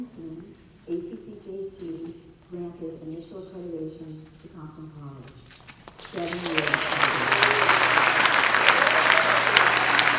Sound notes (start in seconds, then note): 5.7 applause